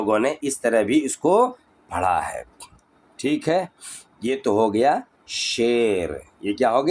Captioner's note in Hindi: नाक से की जाने वाली आवाज़